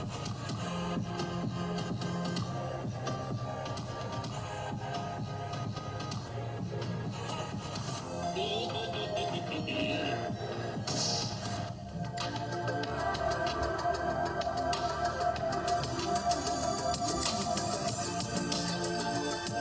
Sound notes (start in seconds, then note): 8.3 laughing; 9.9 upbeat music